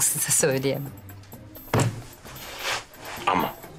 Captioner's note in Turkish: Vurma sesi